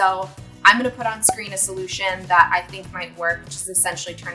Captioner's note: cork pop